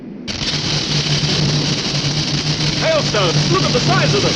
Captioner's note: hail smashing